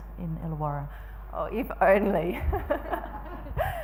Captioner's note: laughing